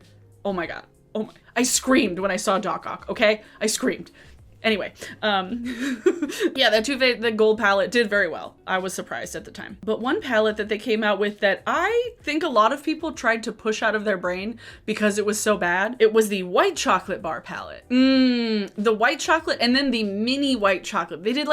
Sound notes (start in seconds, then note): 5.2 laughs